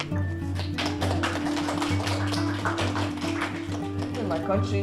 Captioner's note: applause